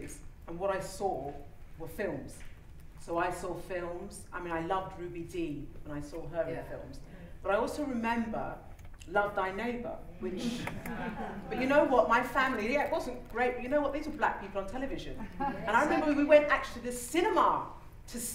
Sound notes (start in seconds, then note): 10.3 laughter